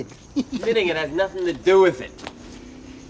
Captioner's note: chuckles